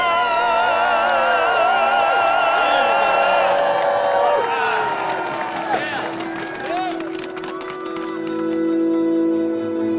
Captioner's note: applause